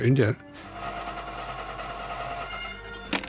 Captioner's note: drills whirs